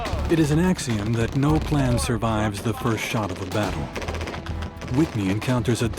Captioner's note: voiceover